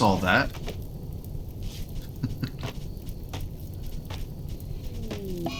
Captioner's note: chuckles